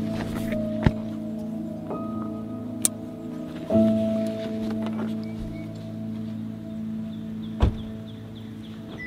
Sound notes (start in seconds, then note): 2.4 clicking; 7.6 car door closing